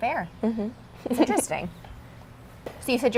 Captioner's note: laughs